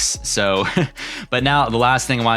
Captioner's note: chuckles